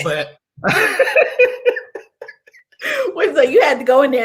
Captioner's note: laughter